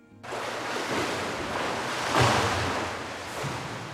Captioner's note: water splashing